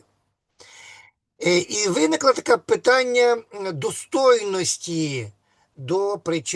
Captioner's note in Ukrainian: сопіння